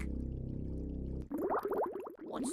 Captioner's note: bubbling